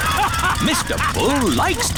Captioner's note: all laughing